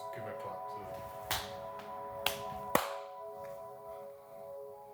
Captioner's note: clapping